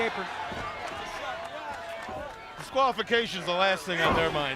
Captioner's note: crowd chatter